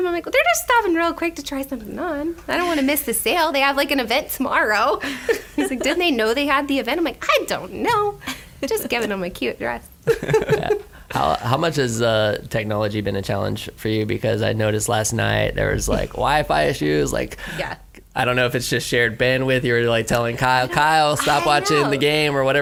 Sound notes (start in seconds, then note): 5.0 laughs; 10.0 laughter